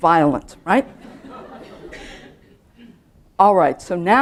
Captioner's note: laughter